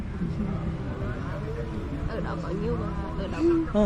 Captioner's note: Vietnamese